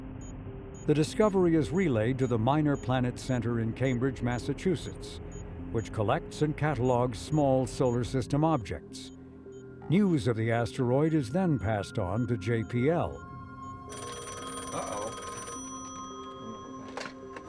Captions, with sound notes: The discovery is relayed to the Minor Planet Center in Cambridge, Massachusetts, which collects and catalogs small solar system objects. News of the asteroid is then passed on to JPL. (phone ringing) - Uh-oh.